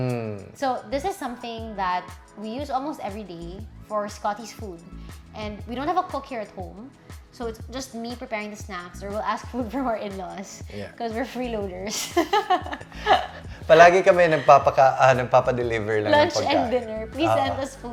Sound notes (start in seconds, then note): 12.2 laughs